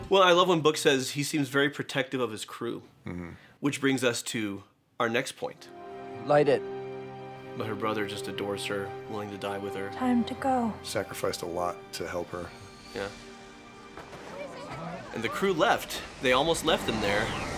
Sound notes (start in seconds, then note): 13.2 engine humms; 14.0 crowd murmurs